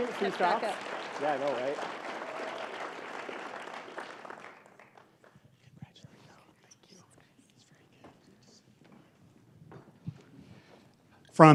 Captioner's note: applause